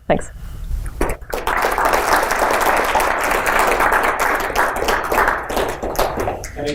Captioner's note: applause